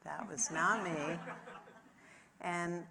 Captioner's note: audience laughs